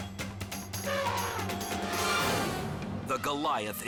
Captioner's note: elephant trumpets